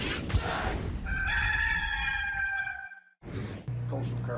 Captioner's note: rooster crows